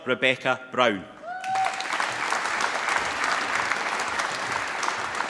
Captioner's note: applause